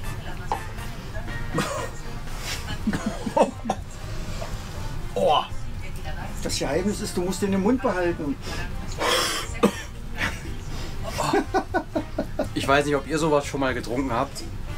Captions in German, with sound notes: [Husten] - Das Geheimnis ist, du musst den im Mund behalten [Husten] [Gelächter] Ich weiß nicht, ob ihr sowas schon mal getrunken habt